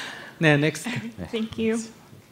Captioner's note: laughs